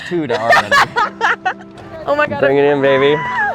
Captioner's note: laughing